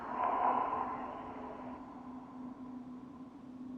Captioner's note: echoing breathing